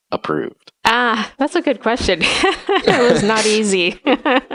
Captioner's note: laughs